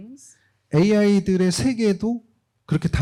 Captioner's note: speaking korean